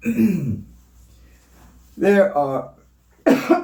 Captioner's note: coughs